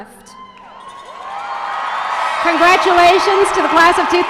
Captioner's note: cheers and applause